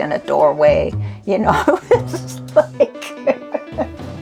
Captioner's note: laughs